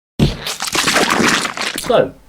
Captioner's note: squelch